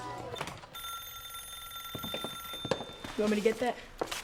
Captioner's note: phone ringing